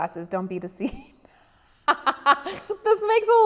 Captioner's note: laughs